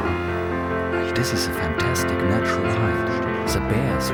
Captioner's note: in German